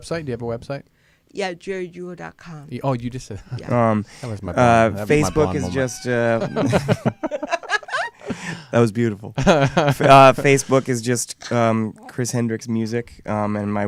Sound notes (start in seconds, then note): 5.0 laughing